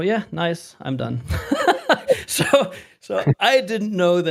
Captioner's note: laughter